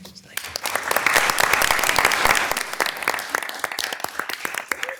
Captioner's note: audience applauding